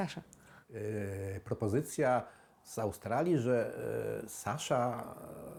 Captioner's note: speaking in foreign language